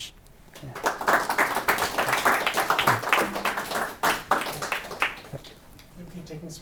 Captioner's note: audience applauding